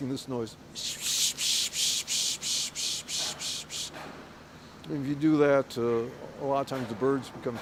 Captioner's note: makes noise with mouth